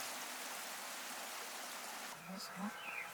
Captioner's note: water flowing, birds, wind noise